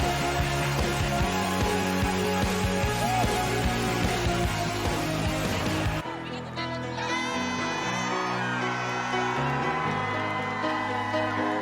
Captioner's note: cheers and applause